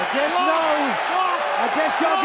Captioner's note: crowd cheering